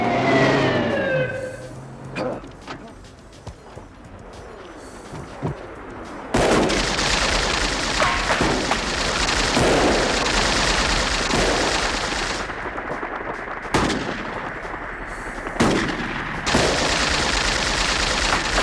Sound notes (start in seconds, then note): 0.2 engine revving; 4.4 helicopter buzzing; 6.6 gunshots booming; 7.4 rapid gunfire popping; 13.8 gunshots booming